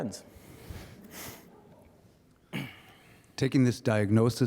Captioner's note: audience chuckling